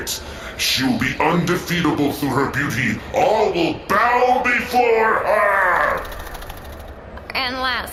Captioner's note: fluttering of insect wings